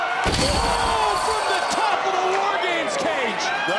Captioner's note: table rattling